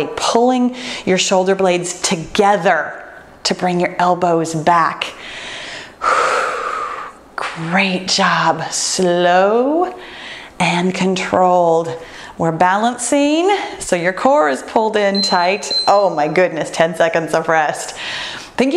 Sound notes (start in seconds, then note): 5.2 breathes deeply; 15.1 timer beeps